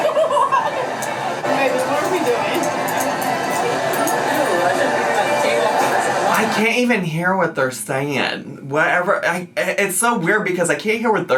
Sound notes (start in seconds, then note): 0.0 laughs; 4.6 speaks faintly